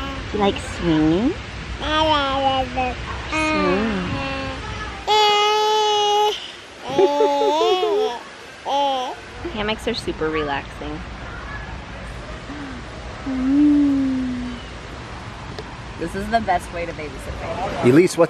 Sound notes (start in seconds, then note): 3.3 babbles; 6.8 laughs